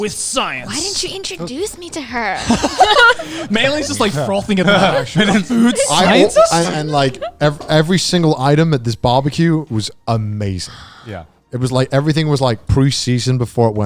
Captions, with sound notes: - Yeah, with science. - With science. - Why didn't you introduce me to her? (all laughing) - Meilyne's just like frothing at her. The food scientist? - Like every single item at this barbecue was amazing. - Yeah. - It was like everything was like pre-seasoned